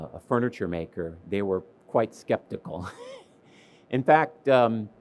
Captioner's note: laughs